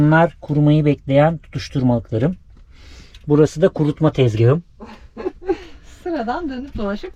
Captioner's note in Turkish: kahkaha